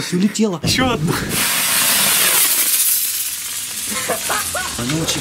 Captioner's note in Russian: шипение